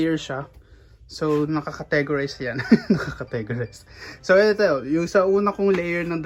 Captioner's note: laughs